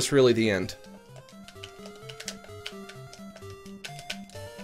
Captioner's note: buttons clicking